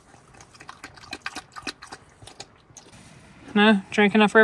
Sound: liquid sloshing

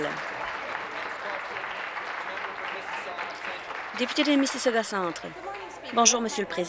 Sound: applause

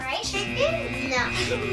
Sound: buzzer

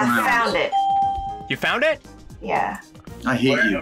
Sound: bell rings

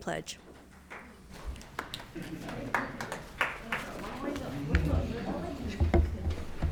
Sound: attendees applauding

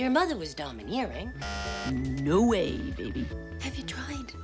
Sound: bzzzt

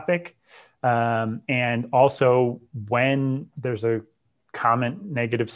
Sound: breath

